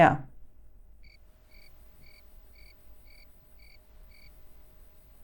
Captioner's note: crickets chirping